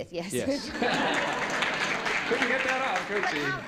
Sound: laughter

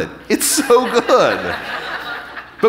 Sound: audience laughing

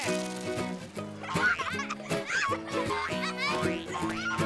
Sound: laughing

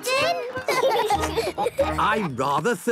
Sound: laughing

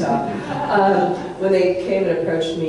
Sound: audience laughs

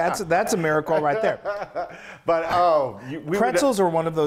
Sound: laugh

